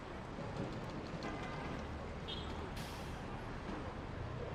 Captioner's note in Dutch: gebabbel, claxonnerende auto's